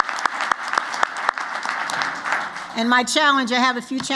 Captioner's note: applause